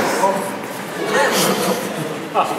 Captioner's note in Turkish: gülerler